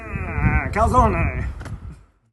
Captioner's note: laughing; speaking in foreign language